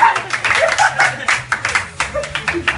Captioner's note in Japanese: 拍手が起こる